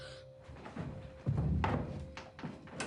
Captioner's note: gasps